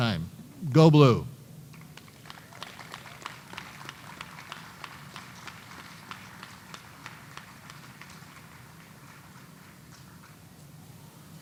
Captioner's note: applause